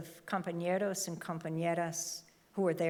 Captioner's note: speaking in foreign language